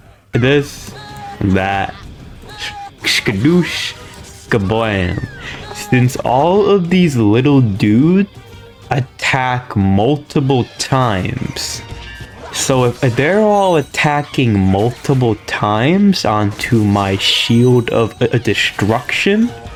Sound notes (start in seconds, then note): 5.1 inhales Oxygen